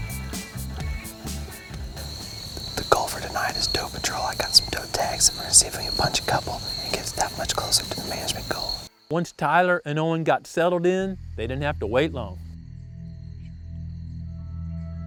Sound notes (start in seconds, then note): 2.8 whispering